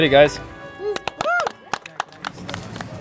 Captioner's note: clapping